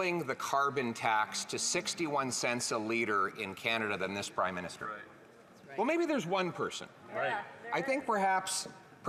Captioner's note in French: voix de l'interprète